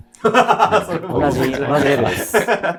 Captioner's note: laughing